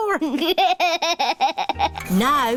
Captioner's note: chuckles